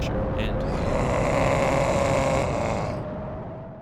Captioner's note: roars